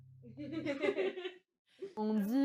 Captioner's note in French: rire